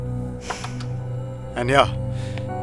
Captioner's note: Shreya sighs